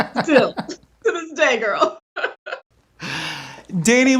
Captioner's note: laughs